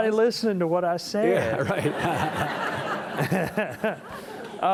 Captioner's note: all laughing